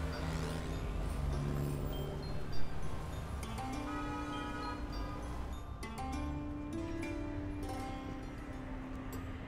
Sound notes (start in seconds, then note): 0.0 vehicle approaching; 3.8 vehicle honking